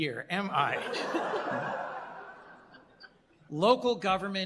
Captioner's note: laughter